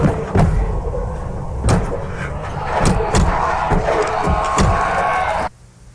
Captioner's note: thudding; screeching